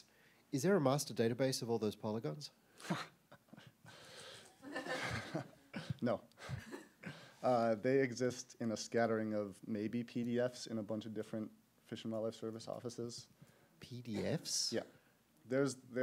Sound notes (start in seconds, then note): 4.5 laughs